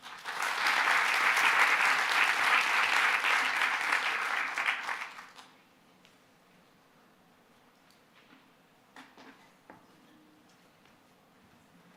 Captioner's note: applause